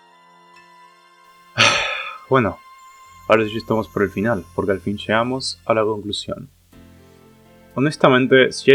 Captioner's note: sigh